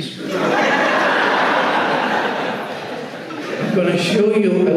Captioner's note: audience laughs